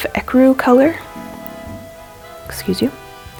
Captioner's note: stomach gurgles